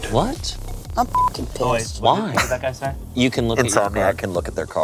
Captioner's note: beep